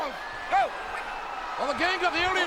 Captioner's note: audience cheers